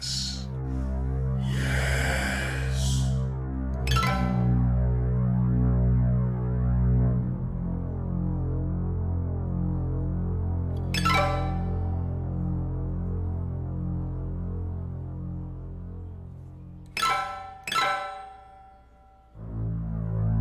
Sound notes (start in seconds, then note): 0.0 spooky Voices; 3.7 eerie high piano stings plucked; 10.5 eerie high piano stings plucked